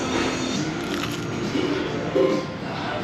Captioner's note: crunch